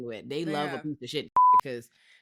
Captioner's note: beep